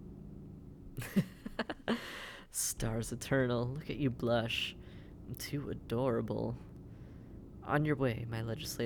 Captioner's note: laughing